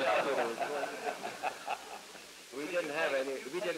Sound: laughter

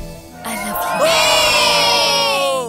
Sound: cheering

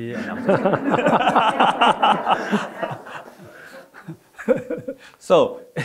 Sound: all laughing

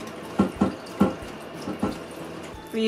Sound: door thumping repeatedly

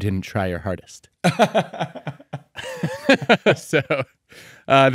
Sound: laughing

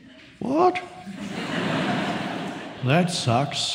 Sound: audience laughs

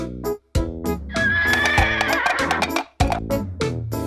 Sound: neighing

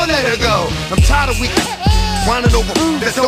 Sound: baby crying

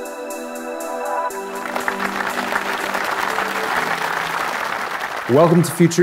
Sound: audience applauding

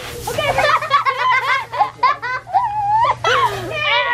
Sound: boys laughing

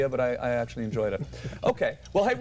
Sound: laughter

